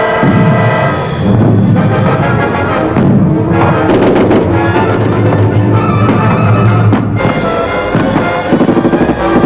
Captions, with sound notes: Take good care of him. (dramatic orchestral music) (explosions)